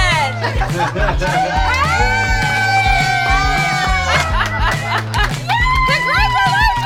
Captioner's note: upbeat pop music; cheering, applauding and laughing